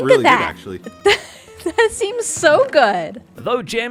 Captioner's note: laughs